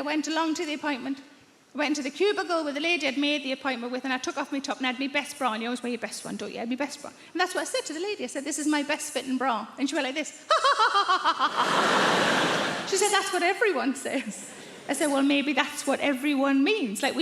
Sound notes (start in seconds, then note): 10.5 laughing